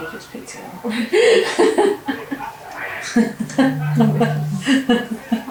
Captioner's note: laughing